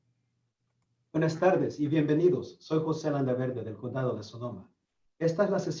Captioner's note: Spanish speaking